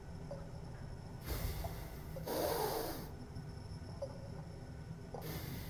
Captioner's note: Miles breathes deeply